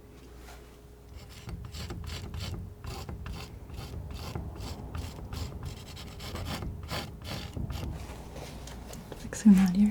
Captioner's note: scraping